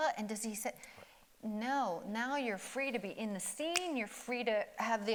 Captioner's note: snaps